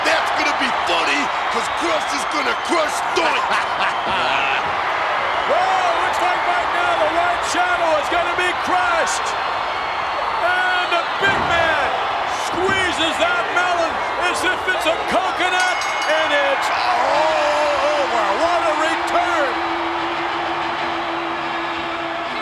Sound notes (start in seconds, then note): 3.3 McMahon chuckles; 3.4 audience cheers; 15.7 bell rings; 17.5 audience cheers; 18.0 upbeat music